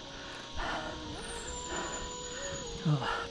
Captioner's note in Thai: เสียงหอบ